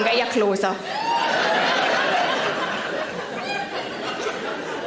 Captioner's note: audience laughing